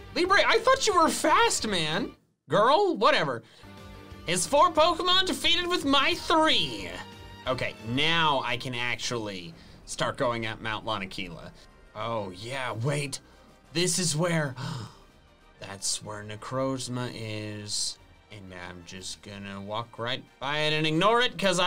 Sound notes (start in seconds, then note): 14.5 gasps